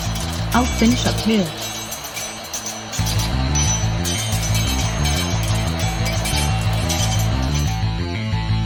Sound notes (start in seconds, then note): 3.1 swords clanging; 3.1 tense music